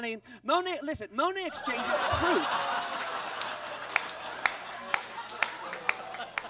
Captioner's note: audience laughs